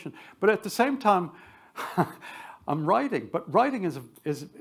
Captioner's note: chuckles